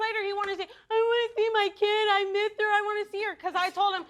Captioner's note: mockingly